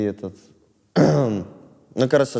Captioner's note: clears throat